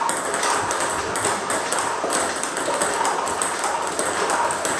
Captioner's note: ball ping pong hitting continues